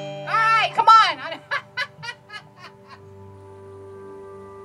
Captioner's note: laughs